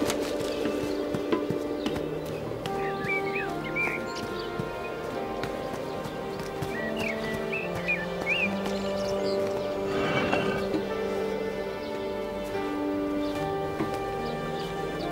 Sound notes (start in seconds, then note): 0.0 Ebony's footsteps; 9.9 manhole cover slides; 12.9 Ebony pads along